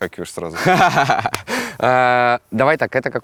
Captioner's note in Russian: смеётся